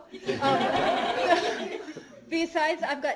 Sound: laughter

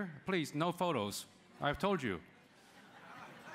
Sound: laughter

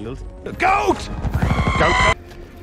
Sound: goat screams

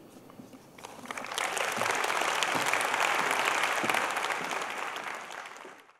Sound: applause

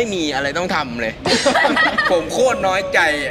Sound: laughs

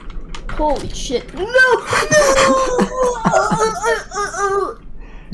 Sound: more dying Boopy noises

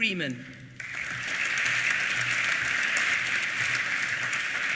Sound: applause

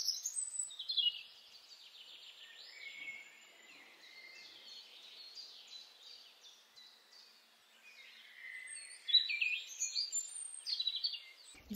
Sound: nature sounds

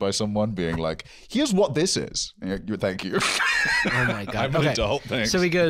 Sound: laughs

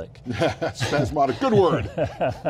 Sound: laughs

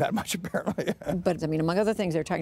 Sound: laughter

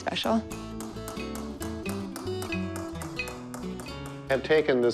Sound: tapping

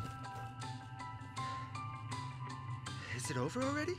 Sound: running footsteps; panting breaths

